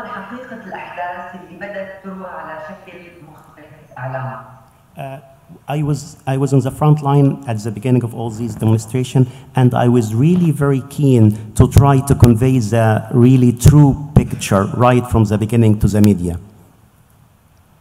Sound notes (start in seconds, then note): 3.4 speaking in Arabic